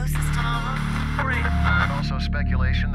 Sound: radio static

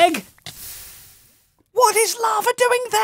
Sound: sizzle

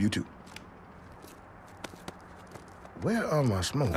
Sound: footsteps

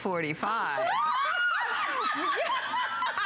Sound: laughter

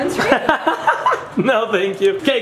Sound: laughing

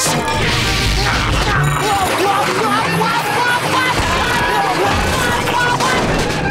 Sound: yelling

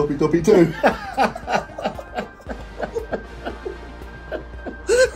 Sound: both laughing

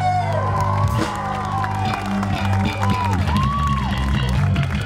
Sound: audience cheers and applauds

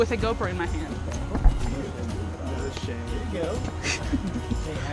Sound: people chattering; laughing

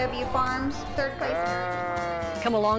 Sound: bleating

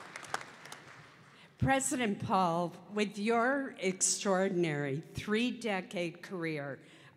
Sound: applause

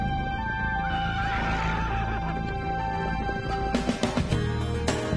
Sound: horse neighing; upbeat music

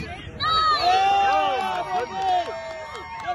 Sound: crowd cheers

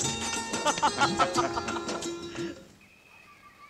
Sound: laughs

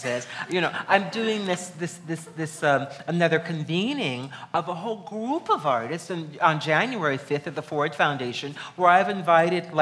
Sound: laughs

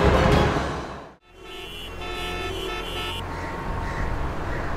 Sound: honking sound

